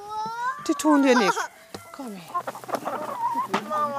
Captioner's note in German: Weinen